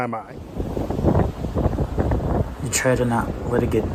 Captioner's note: wind howling